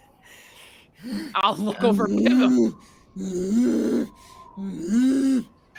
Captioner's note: Pivm grunts loudly